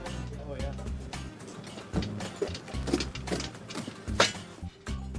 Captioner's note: footsteps pattering